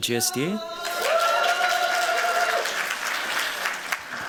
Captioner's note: cheers, applause